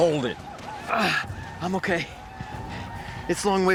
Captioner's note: grunts